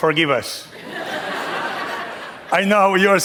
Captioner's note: laughter